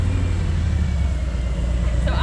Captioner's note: engine rumbling